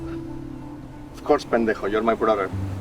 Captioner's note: speaking in foreign language